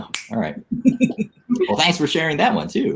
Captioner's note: laughing